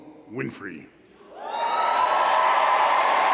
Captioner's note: applause